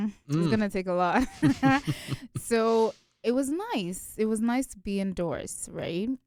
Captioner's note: both chuckle